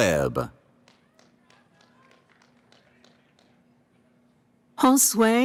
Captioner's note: applause